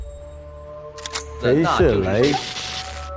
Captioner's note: electroshock